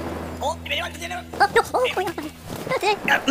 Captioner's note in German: aufgeregtes Gebrabbel